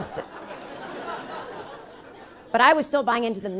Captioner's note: audience laughing